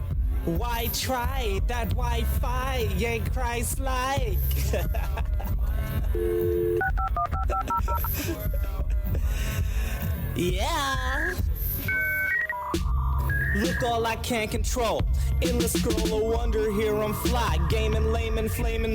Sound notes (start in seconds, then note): 4.5 laughs; 6.2 phone dialing